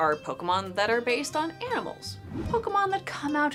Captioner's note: Pokemon whooshing